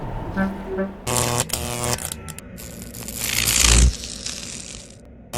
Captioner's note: radio static